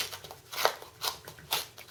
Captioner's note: tearing